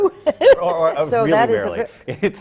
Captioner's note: laughs